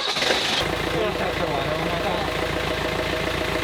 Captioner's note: engine roaring